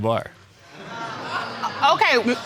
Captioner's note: audience exclaiming